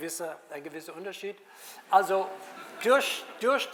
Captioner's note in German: Publikum lacht